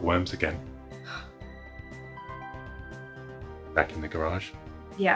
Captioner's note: sighing